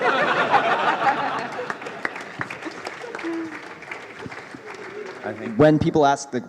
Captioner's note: laughter; applause